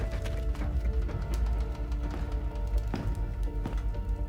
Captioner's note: footsteps tapping